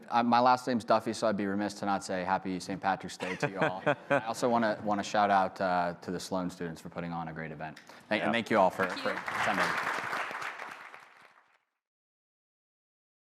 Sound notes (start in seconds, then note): 3.2 laughs; 8.5 applause